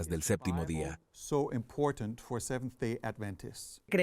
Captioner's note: Hablando idioma extranjero